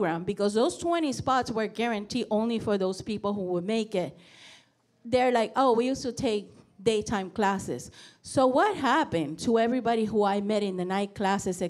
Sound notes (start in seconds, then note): none